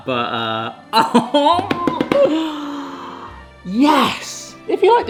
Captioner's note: chuckles